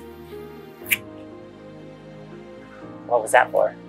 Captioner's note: kiss sound